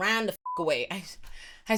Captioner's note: beep